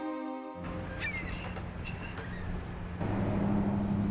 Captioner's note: bird squawking; traffic buzzing